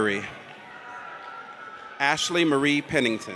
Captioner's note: audience cheers